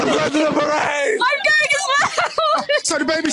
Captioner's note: laughs